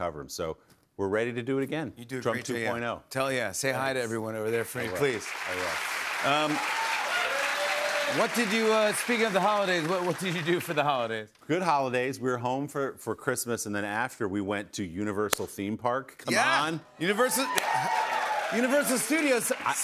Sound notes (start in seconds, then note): 4.9 cheers and applause